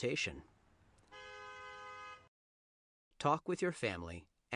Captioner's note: honking